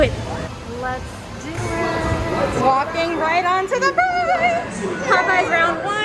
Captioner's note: in singsong